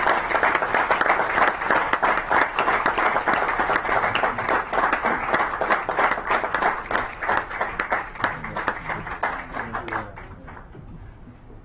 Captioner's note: clapping